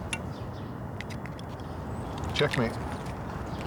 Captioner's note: tinkering of chess pieces